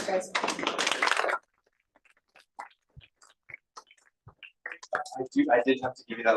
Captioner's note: applause